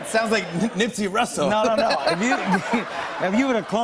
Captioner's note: laughter